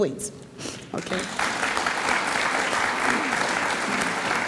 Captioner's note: audience applauds